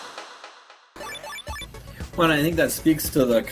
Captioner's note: game sound effect